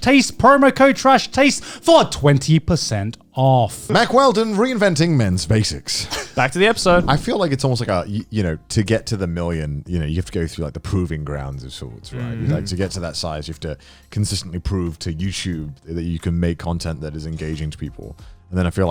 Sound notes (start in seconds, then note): 12.1 affirmative murmuring